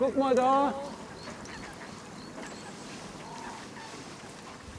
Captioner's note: chirping, chattering animal sounds